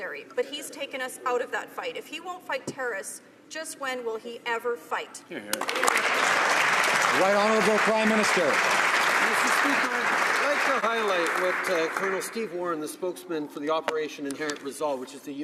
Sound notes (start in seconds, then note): 8.5 some Applause